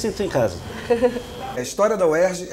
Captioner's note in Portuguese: risos da apresentadora